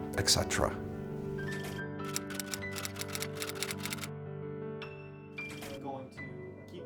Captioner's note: typewriter keys